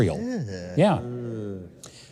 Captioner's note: grunts